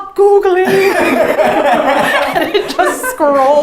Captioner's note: all Laughs